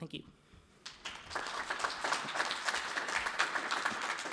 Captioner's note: applause